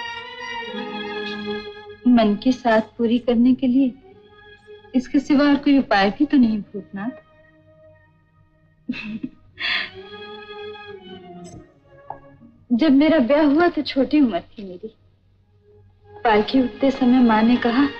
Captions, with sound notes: There is no other way to fulfill my desire, Bhoothnath. (Chuckles) I was very young when I got married. When my palanquin was being lifted, mother said to me,